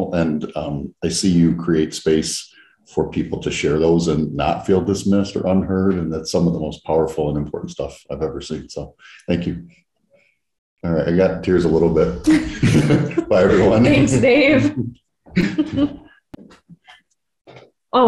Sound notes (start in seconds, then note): 12.5 both laugh; 15.3 both laugh